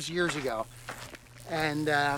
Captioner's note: electrical buzzing